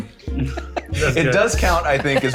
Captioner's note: laughing